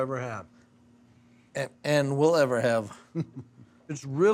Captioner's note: chuckling